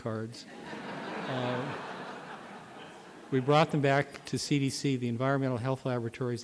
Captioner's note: laughter